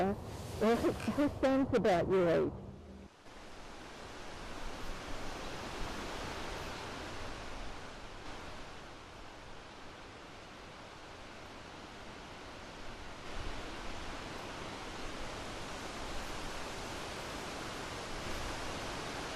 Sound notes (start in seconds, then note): 2.9 whooshing